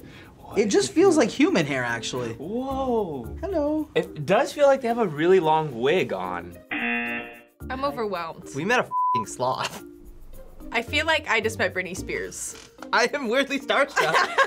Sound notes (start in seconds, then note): 6.7 buzzer